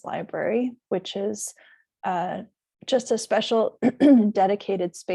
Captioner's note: clears throat